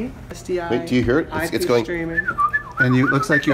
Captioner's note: whisltes